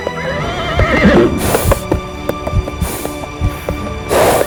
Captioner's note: screams